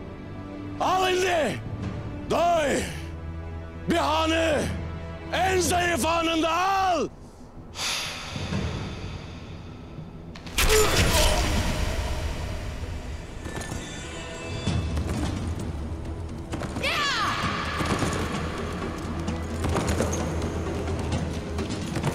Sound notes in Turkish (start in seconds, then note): 7.7 Derin nefes veriyor; 11.0 İnleme Sesleri